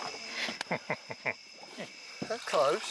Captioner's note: laughing